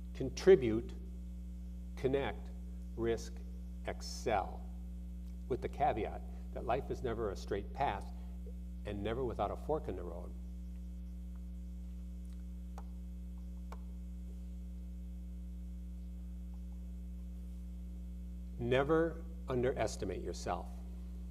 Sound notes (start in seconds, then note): none